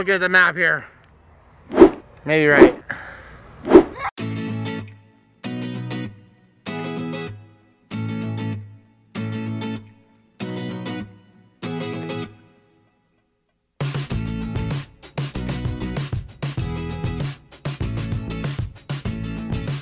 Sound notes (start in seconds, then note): 1.6 wooshing noises; 4.8 guitar music